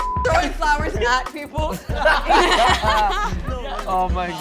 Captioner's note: laughing